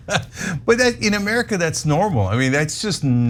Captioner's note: laugh